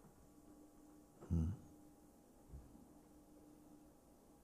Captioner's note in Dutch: stilte